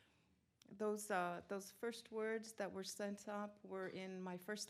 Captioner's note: in English